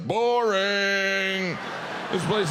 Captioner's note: audience laughs